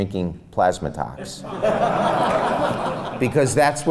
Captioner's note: laughs